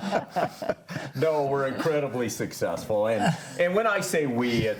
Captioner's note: panelists laughing